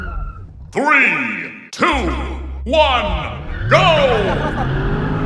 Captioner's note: deep voice